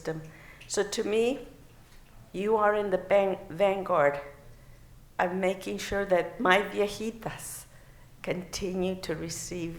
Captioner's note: non-english